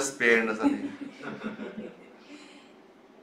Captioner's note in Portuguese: risos